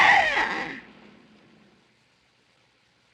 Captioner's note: screams